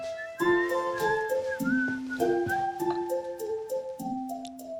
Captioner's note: whistling